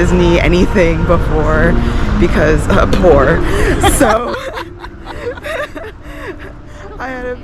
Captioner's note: haha!; cackling